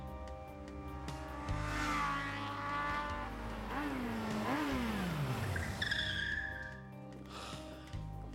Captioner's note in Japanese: バイクの走行音